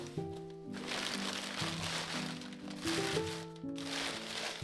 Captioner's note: paper rustling